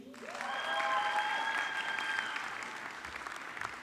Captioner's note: audience clapping